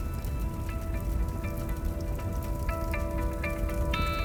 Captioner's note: gentle upbeat music; fire raging; gentle upbeat music